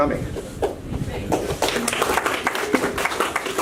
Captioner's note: applause